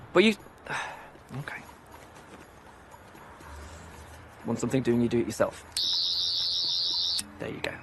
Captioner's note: Sonic Screwdriver noise